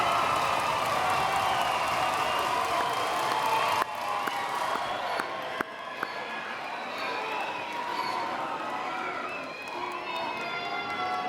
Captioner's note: cheers and Applause